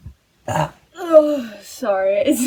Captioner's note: burp